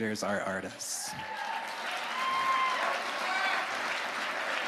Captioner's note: audience cheering